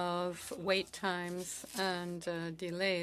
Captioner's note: speaking French